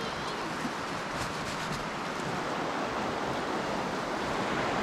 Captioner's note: tarp shaking